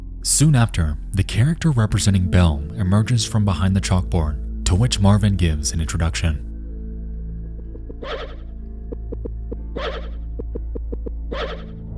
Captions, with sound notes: Soon after, the character representing Belle emerges from behind the chalkboard, to which Marvin gives an introduction. (game sound effects)